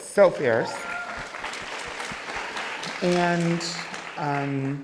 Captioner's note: crowd cheering